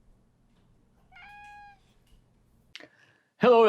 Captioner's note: meow